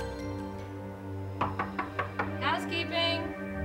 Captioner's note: knocking